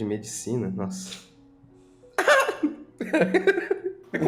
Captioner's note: laughs